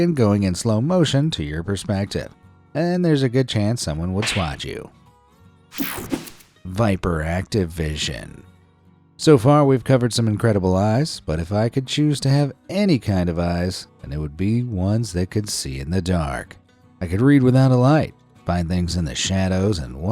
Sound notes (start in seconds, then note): 5.8 air whooshing